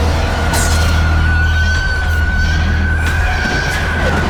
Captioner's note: demon screeching